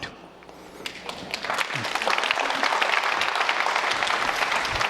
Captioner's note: audience applauding